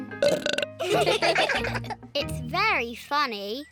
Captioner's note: burps; all laugh